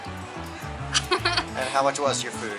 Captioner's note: laughter